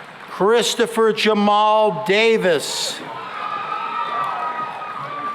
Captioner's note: cheering and applause